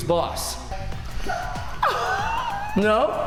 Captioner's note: laughing